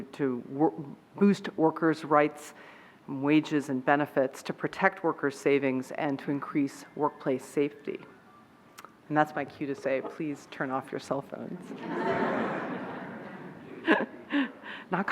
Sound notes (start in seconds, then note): 8.1 phone ringing; 11.6 laughing